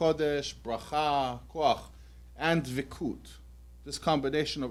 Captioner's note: non-english